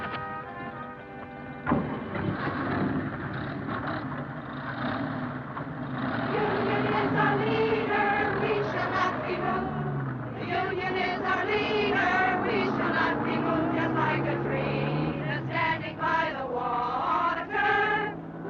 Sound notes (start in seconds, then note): 1.0 car door thuds; 2.4 car engines revving